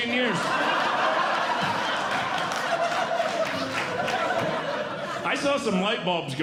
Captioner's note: audience Laughing